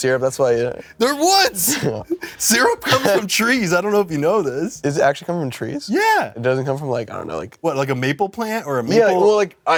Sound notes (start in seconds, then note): 2.8 chuckles